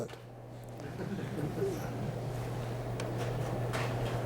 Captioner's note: chuckling